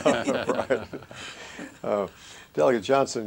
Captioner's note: laughter